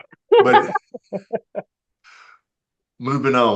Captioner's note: laughter